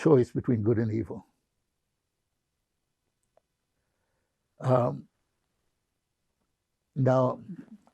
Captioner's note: pauses 6 seconds